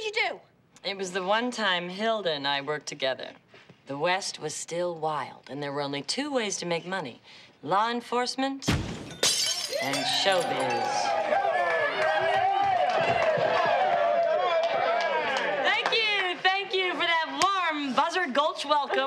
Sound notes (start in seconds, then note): 12.1 <i> audience cheering</i>